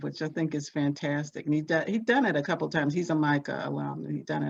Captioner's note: none